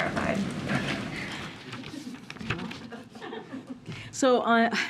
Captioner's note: laughter